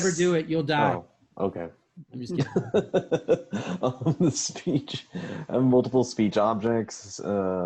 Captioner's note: laughs